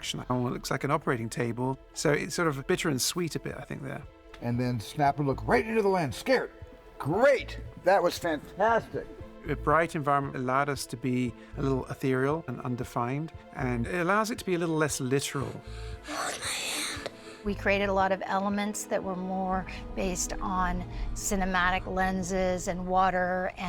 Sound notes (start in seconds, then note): 15.7 panting